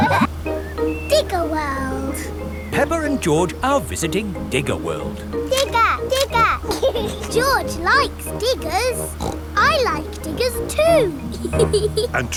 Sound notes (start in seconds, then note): 7.0 laughs; 9.3 snorts; 11.6 laughs